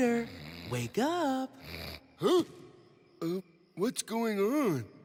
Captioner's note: snorts